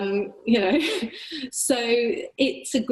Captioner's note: laughter